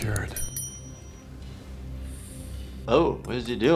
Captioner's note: bell dings